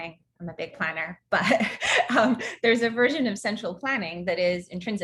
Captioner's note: laughs